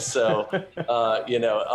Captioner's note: laughter